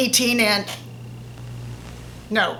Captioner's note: Static